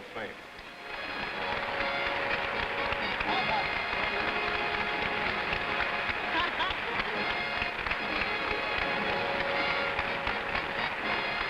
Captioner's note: applause